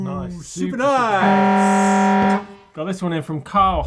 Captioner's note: buzzing